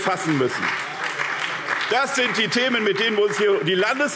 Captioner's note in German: Beifall SPD